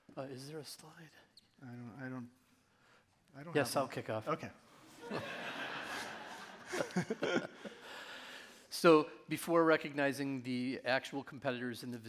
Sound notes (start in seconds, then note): 5.0 audience laughing; 5.0 laughing